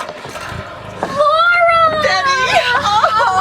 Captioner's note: door creaking